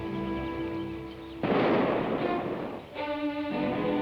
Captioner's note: gun fires; suspenseful orchestral music